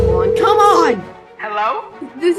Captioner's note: on phone